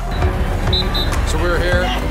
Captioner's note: whistle blowing